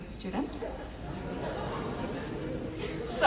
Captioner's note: audience laughs